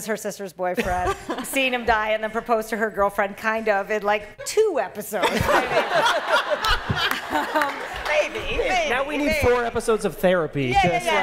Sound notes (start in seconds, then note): 5.2 laughter